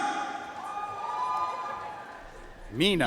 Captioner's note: audience cheering and applauding